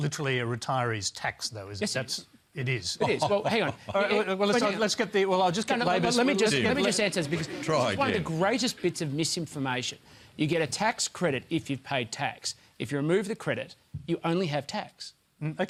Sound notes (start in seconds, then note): 3.0 laughs